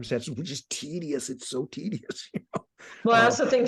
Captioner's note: laughing